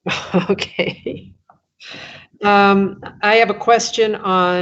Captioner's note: chuckles